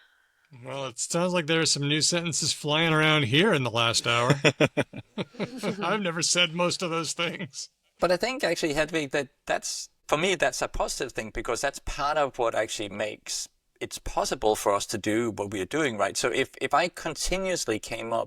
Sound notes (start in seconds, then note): 4.2 laughter